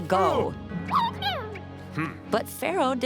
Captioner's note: squeaking